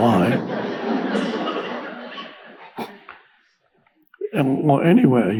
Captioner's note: audience laughs